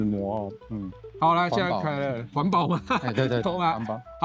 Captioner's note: laughs